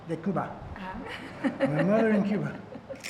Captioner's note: speaking Spanish; woman laughs